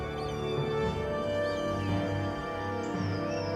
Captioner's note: bird screeches